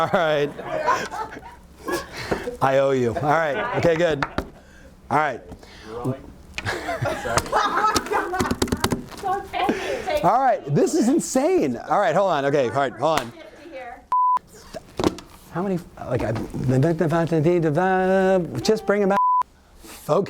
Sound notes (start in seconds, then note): 0.0 laughs; 6.6 laughter; 7.2 slapping; 14.1 beep; 14.6 thumping; 17.8 blabbering; 19.1 beep